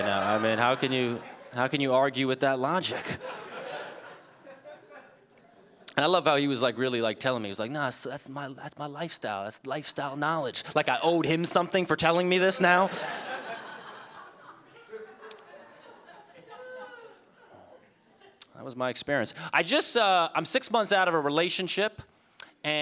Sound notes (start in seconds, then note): 2.8 audience laughing